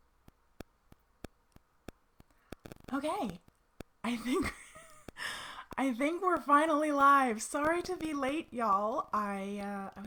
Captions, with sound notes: Okay, I think (laughs) I think we're finally live sorry to be late y'all.